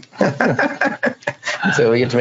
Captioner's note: laughs